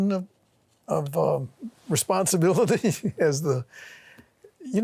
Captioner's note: laughs